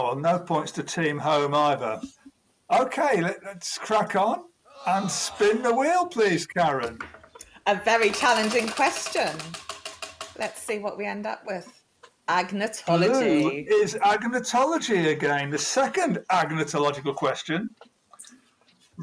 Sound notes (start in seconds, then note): 7.9 wheel ticking